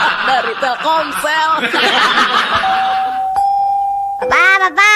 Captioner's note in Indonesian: tertawa